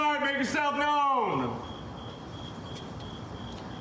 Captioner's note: crickets chirping